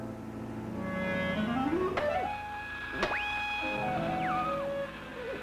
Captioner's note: siren blaring